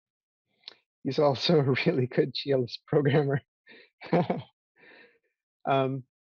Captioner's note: laughs